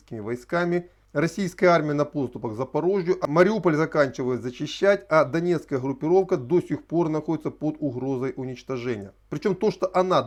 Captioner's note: Ukrainian